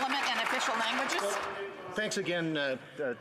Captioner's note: some applause